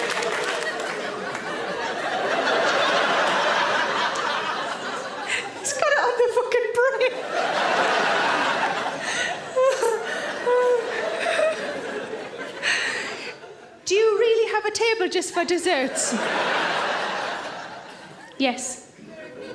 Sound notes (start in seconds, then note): 2.1 audience laughs; 9.3 Sarah laughs; 15.8 audience laughs